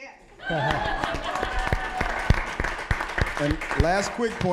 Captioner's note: audience laughing; applause